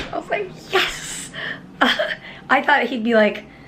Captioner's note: giggles